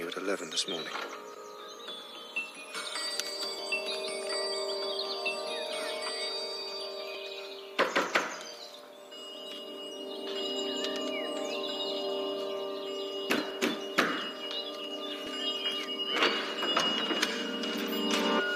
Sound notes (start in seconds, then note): 1.8 clock begins to chime; 7.8 knocking; 8.8 clock begins to toll; 13.2 clock tolling; 14.0 knocking